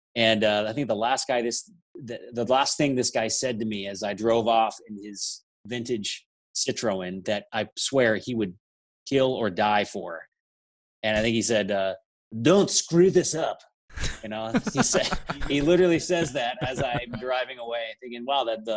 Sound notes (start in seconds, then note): 14.4 laughs